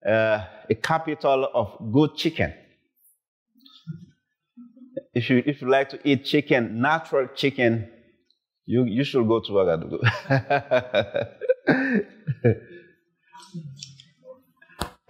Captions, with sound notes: a capital of good chicken. If you like to eat chicken, natural chicken, you should go to Ouagadougou. (laughs)